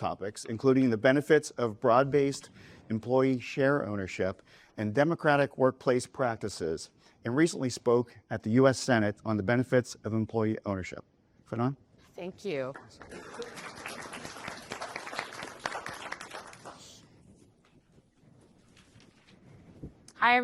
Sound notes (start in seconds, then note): 12.7 applause